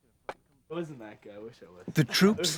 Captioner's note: voiceover